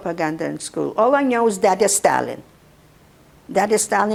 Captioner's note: russian